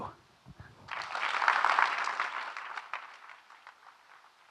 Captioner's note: audience clapping